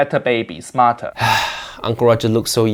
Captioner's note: Uncle Roger sighs